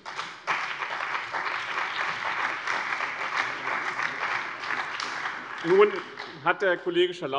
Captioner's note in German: Beifall